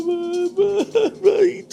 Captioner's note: crying noises